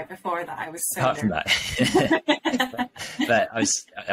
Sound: laughs

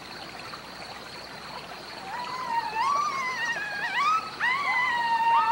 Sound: high pitched howling

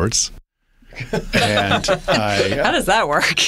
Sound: laughter

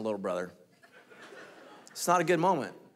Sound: congregation laughing

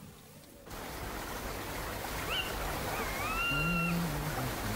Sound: Walter humming

